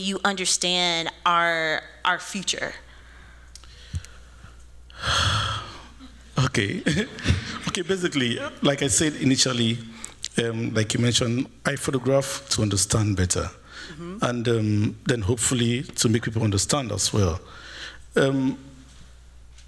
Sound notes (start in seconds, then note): 4.9 sighs; 6.7 laughs